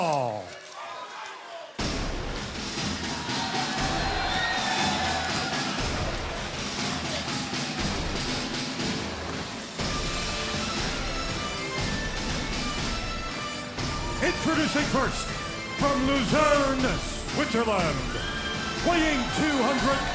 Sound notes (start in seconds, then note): 4.2 crowd cheering